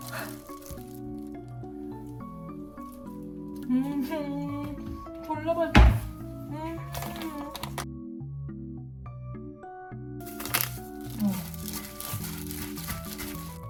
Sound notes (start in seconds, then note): 3.6 sob